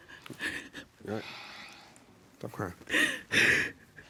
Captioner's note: sobbing